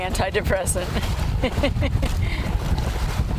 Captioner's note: laughs